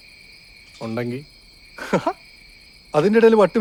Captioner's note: Augustin laughs